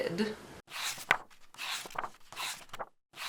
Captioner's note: pages turning